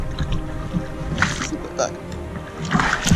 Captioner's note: angry voices